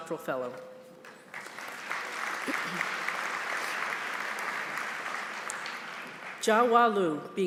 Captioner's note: applause